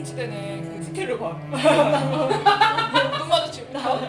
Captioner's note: laughing; tilting head sound